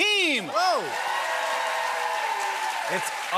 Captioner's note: cheers and applause